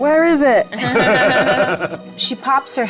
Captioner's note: laugh